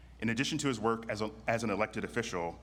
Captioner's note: none